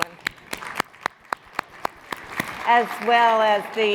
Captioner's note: audience applauds